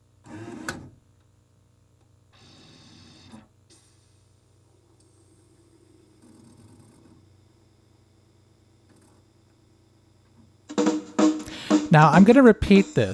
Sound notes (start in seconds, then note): 1.7 disc spins; 5.8 faint tracking noises